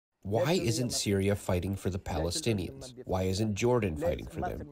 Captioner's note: through translator